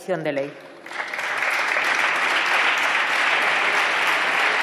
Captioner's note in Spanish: Aplausos